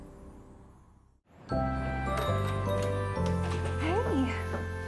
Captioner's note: bell jingling